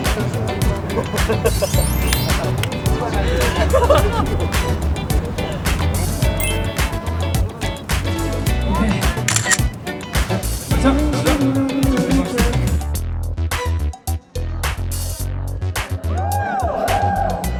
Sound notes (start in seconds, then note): 0.1 neverending laughter among the members